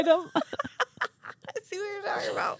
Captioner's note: laughing